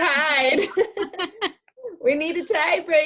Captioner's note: both laugh